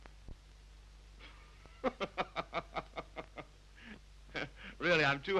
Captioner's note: Harry laughs